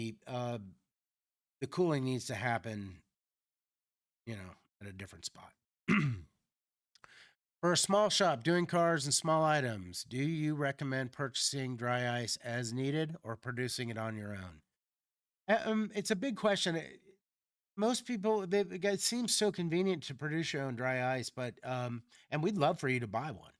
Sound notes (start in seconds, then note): 5.9 clears throat